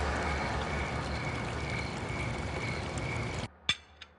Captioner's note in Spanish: Sonido de fuentes de agua